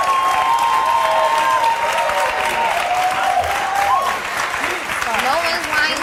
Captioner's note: audience cheers and applauds